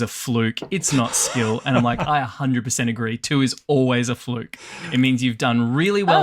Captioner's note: laughs